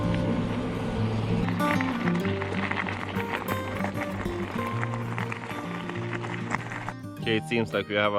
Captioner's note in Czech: Potlesk